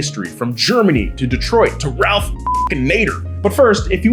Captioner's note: beep